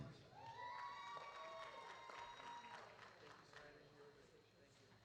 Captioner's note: audience cheering